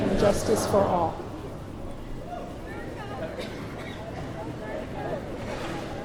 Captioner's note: chatter